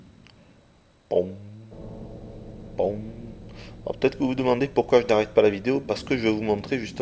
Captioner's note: bong